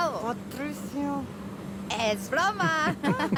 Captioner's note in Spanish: En voz baja; Risas